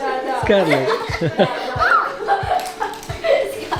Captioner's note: everybody laughs